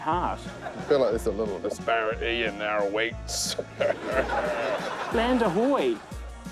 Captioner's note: laughs gruffly